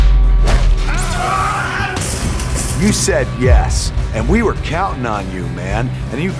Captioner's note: screaming